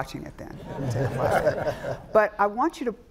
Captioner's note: all laughing